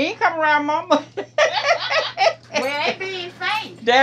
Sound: both laugh

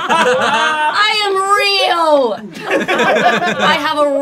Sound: laughing

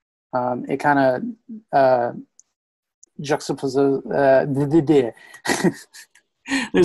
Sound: laughs

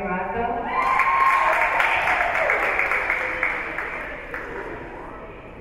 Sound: spectators cheering and applauding

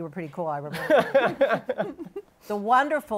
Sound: laughs

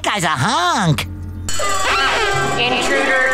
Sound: siren blaring

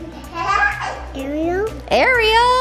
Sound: child laughs

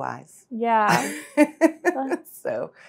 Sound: laughs

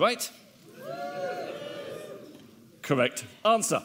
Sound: audience wooing

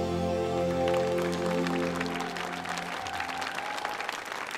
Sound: audience applauding

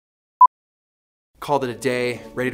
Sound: beep

